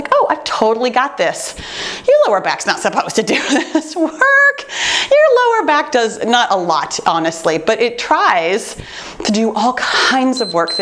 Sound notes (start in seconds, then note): 3.2 chuckles